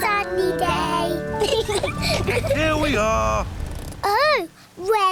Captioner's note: both laugh